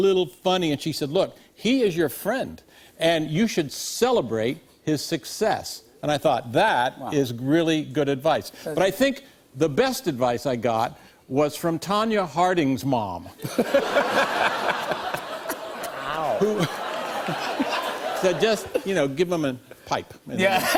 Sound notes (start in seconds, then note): 13.4 laughter